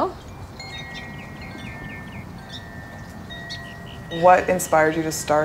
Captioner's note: birds chirping